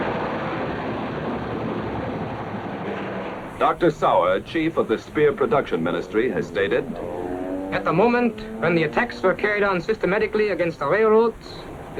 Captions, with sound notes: Dr. Saur, chief of the Speer Production Ministry, has stated: (German-accented voice) At the moment when the attacks were carried on systematically against the railroads,